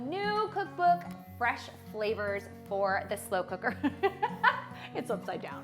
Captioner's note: laughs loudly